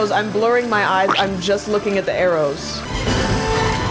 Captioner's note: splat